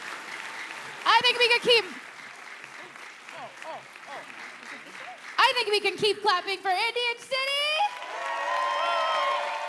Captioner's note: applause